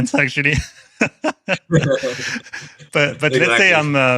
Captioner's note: laughter